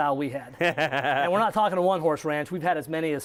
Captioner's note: laughs